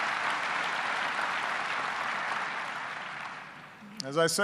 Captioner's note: applause